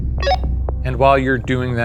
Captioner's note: radio beeps